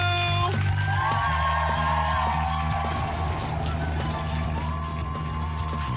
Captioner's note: upbeat music; crowd cheering and applauding